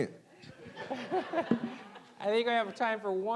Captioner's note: audience laughing